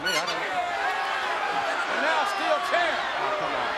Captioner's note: crowd cheering